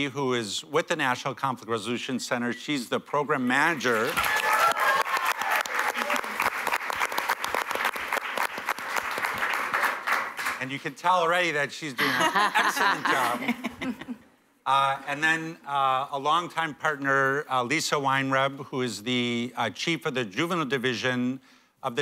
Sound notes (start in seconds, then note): 9.5 applause; 12.0 laughter